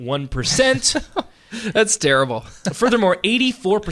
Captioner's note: laughing